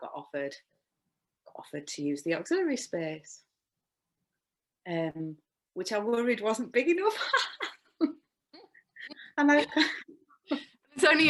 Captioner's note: laughs